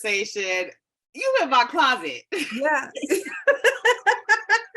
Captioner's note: laughs